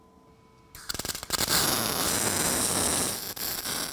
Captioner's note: sparking